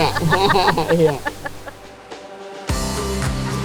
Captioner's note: both laugh; cheerful music; group laughing